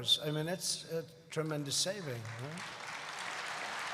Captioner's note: applause